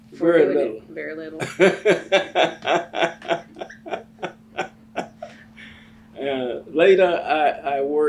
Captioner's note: laughs